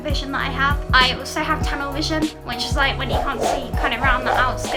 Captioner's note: lasso sound